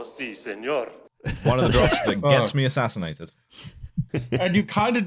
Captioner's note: laughter